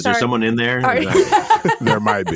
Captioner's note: laughs